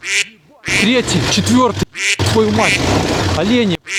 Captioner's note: quack